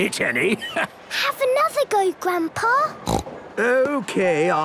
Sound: snorts

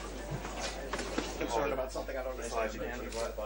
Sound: chatter

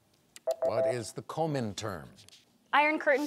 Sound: timer beeps

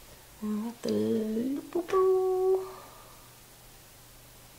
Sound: hums

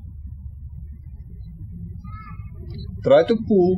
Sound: birds chirping

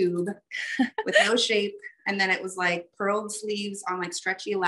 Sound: laughs

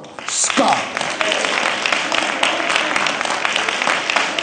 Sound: applause

